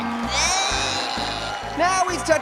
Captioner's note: grunts